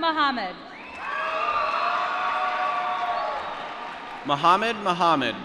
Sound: applause

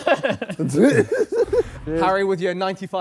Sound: laughs

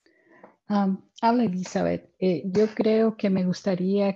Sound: speaking in spanish

